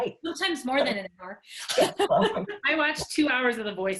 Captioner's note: laughing